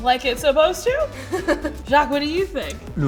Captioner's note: laughs